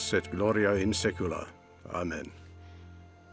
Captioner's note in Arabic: الصوت المنطوق باللغة اللاتينية